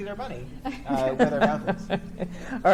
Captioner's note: chuckles